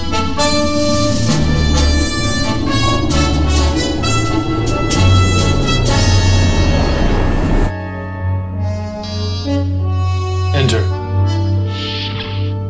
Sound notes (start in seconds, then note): 8.7 door buzzer